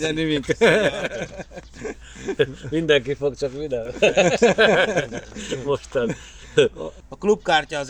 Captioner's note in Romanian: Râsete